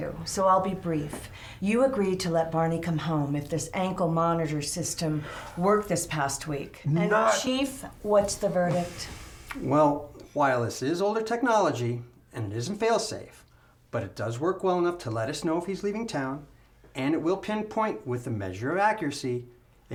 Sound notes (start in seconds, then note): none